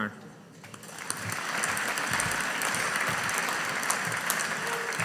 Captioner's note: audience applauding